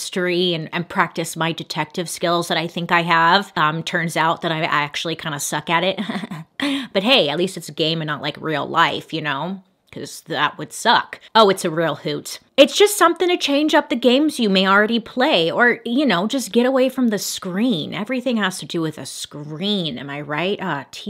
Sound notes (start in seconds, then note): 5.9 Bailey chuckles